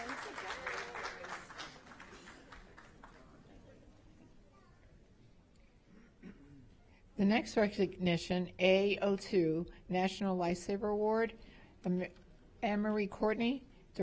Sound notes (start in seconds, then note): 4.0 applause